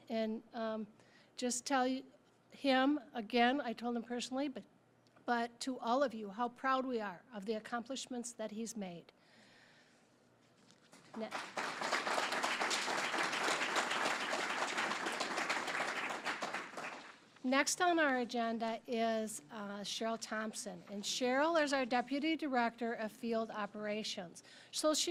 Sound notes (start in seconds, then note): 11.0 applause